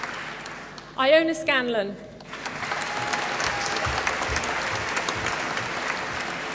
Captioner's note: applause